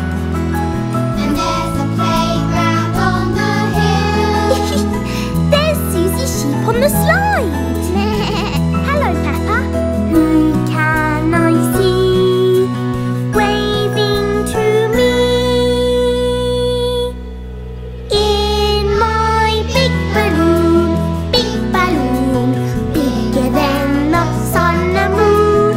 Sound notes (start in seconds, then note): 0.2 singing; 4.3 laughs; 8.0 bleating; 9.8 singing